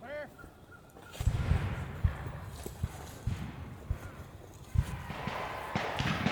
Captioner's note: gunshot cracking continues